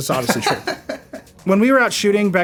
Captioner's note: laughing